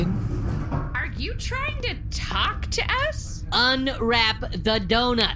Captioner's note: impatiently; snapping fingers